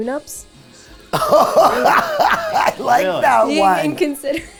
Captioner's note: laughs